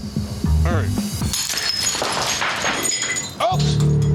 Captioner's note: glass shattering